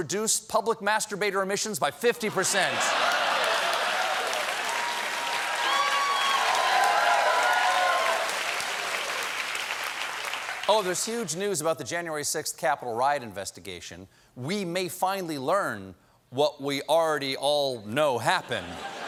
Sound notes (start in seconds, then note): 10.5 applause